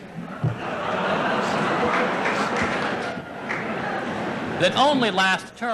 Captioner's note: laughter